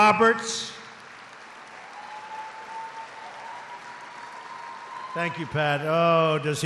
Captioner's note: applause